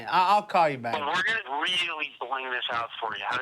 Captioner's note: on phone